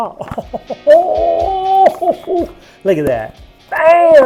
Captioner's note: laughing